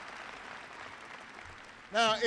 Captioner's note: applause